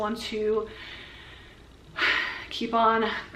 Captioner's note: deep breath